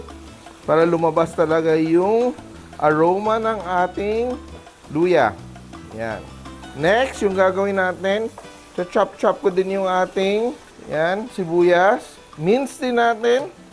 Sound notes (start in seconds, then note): 0.0 sizzle